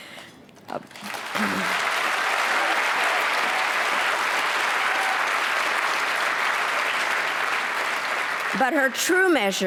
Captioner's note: applause